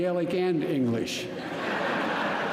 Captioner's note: laughter